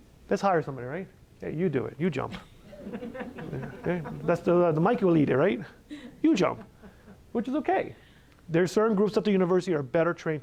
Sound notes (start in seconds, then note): 2.4 laughter